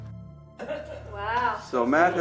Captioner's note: speaker laughs